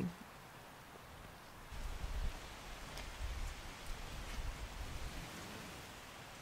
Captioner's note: wind rustling sounds